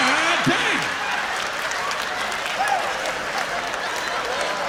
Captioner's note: laughter